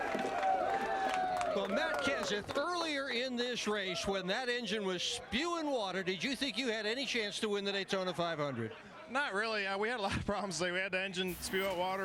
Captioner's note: cheers and applause